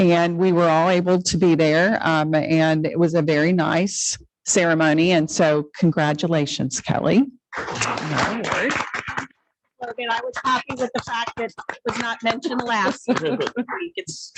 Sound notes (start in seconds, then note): 7.5 congregation clapping